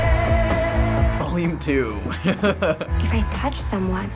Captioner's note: laughing